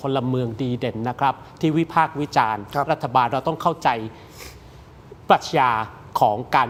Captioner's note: takes a breath